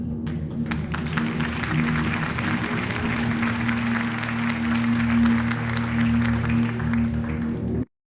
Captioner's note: audience applause